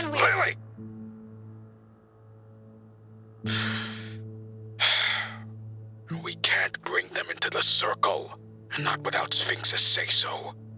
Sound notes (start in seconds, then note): 3.2 inhales; 3.5 exhales